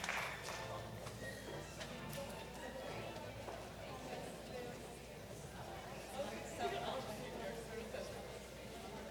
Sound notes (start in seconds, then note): 1.7 audience chattering